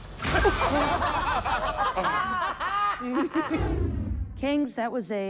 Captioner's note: judges laughing